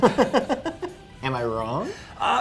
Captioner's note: men laugh